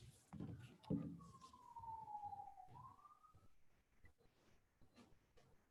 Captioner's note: ambulance siren blaring